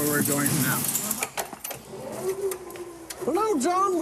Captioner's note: mechanical whirring